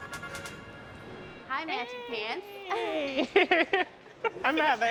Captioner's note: chuckles